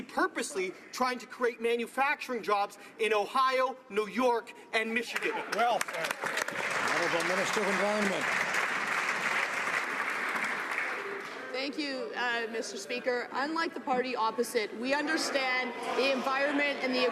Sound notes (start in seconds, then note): 9.5 some Applause